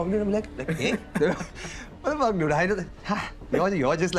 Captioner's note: speaking Hindi